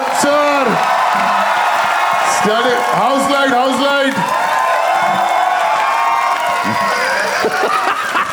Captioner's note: crowd applauding